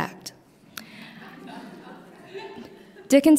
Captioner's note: laughter